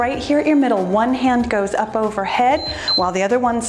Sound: timer beeps

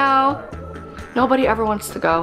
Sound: groaning

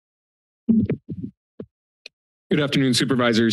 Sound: mic thumps

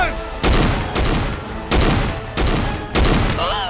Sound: guns firing

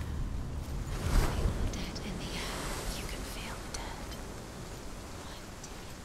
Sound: whispering

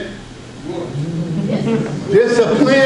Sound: audience members shout out

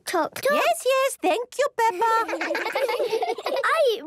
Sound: children laughing

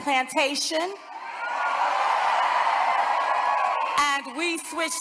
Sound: crowd cheering

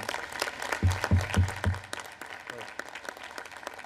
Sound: applause

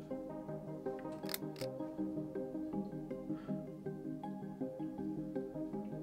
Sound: box opens

